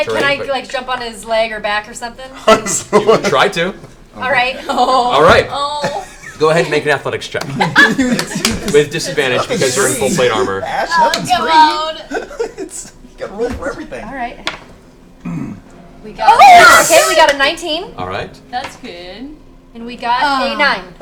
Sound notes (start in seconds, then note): 12.8 laughing